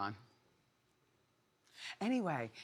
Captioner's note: none